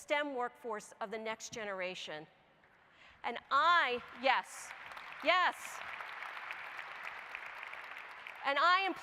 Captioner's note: applause